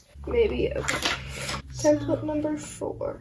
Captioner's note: paper rustling